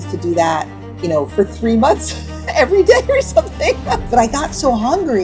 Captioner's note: laughs